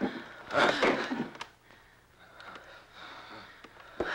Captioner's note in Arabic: تأوه